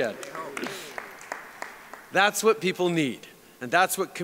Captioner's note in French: Applaudissements